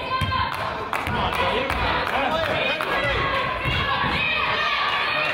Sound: coach yells; claps

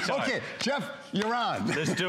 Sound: laughter

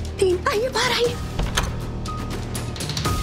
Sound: door opening; suspenseful music playing

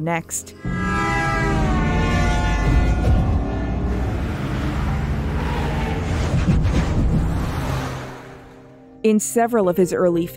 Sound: car sounds

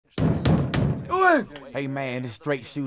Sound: knocking on the door

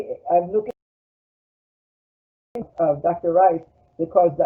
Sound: break in audio

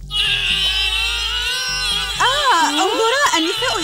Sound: sounds of struggle

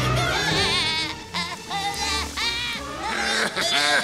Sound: screaming

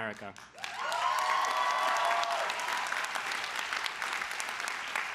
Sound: crowd applause

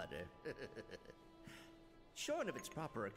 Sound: laughs

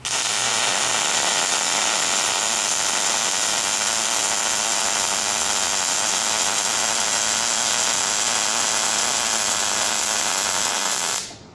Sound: welding

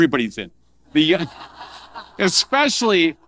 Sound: audience laughing

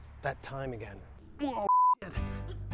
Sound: beep

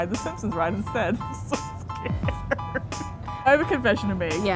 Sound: laughing

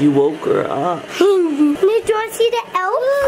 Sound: laughs

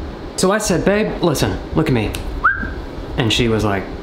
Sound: whistles

